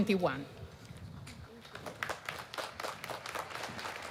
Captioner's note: applause